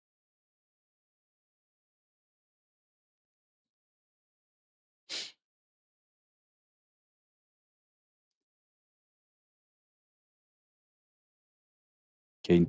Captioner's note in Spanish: resoplido